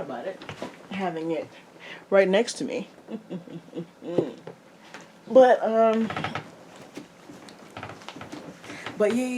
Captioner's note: silly, somewhat awkward chuckle